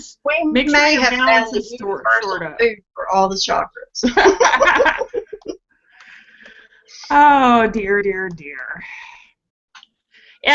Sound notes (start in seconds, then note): 8.8 laughing